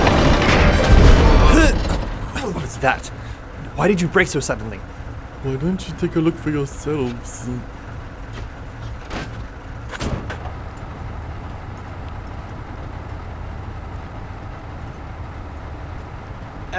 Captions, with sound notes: (thudding) (grunting) - What was that? Why did you brake so suddenly? - Why don't you take a look yourselves?